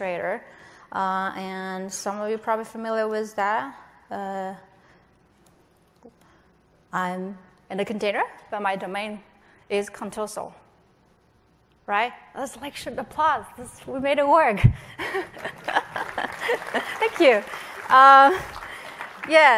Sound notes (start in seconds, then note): 15.2 applause